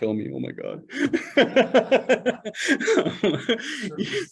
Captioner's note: laughter